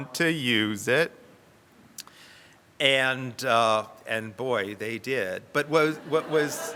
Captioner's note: audience laughs